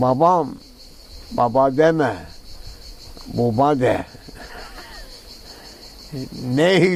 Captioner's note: old, countryside accent